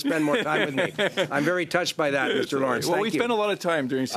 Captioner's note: laughter